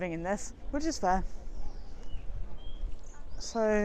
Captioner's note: birds chirrup